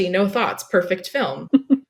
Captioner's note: laughs